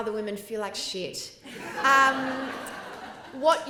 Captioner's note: laughter